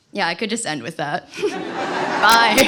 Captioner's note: laughter